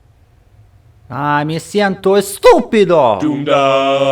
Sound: in Spanish

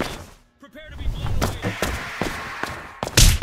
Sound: hl2 stalker scream in distance

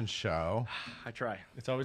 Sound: sighs

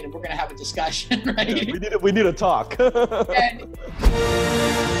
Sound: laughs; upbeat music

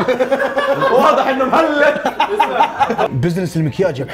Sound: laughs

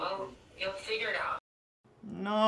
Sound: on phone

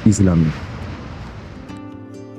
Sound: waterfall sound

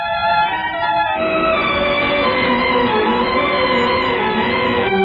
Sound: machine whirring

